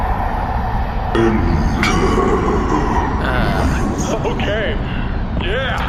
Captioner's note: scary music; growling